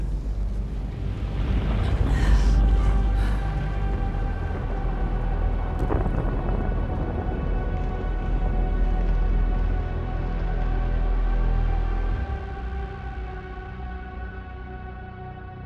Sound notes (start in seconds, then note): 5.8 rumbling